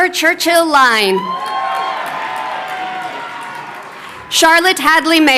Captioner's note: crowd cheering